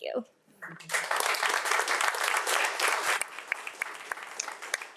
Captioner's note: audience applauding